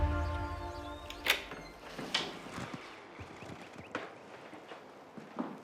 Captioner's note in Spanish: Sonido al abrir la puerta